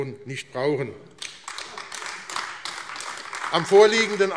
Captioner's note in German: Heiterkeit und Beifall AfD